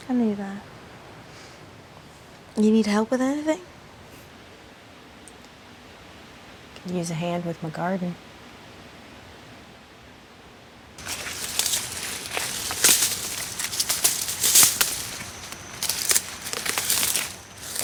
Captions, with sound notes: - I knew that. You need help with anything? - I could use a hand with my garden. (vegetation rustling)